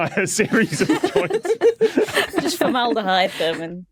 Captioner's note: group laughing